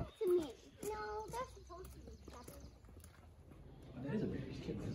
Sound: kids talking/walking to the entrance building

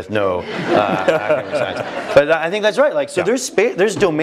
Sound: laugh

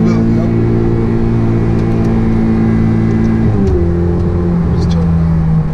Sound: engine roaring

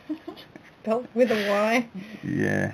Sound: we both laugh at my silly voice

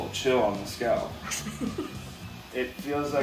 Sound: laughs

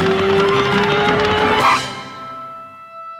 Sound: record scratch

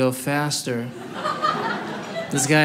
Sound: audience laughing

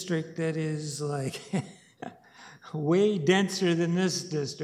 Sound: chuckles

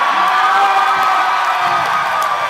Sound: cheers

